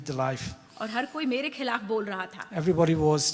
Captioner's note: speaks foreign language